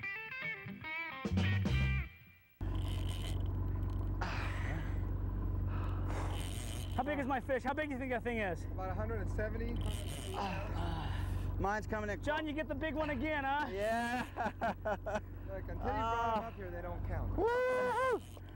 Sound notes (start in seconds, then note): 13.6 laughter